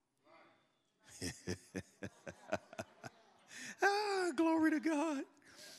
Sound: laughs

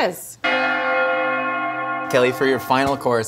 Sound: bells Ringing

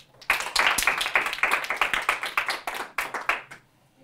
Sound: applause

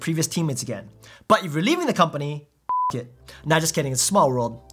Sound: beep

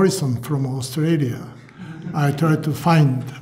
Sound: laughter

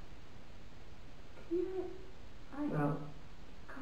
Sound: whispers

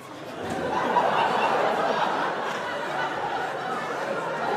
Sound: audience laughs

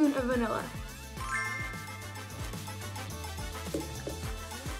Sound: bell chimes

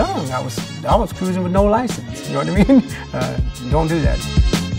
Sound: chuckles

